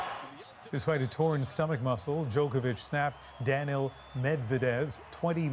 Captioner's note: cheers and Applause